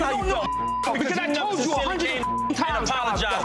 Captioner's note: beep